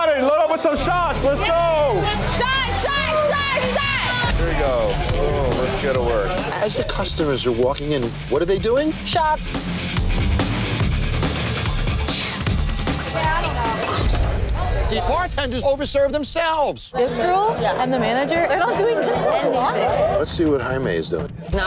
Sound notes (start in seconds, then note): 9.9 dramatic music; 13.4 glass breaking